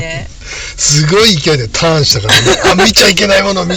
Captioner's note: laughs